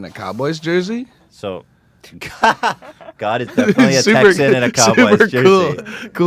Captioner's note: breaks in laughter